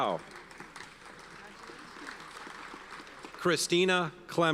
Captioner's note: audience applauds